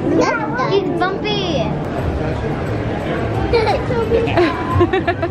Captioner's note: family laughing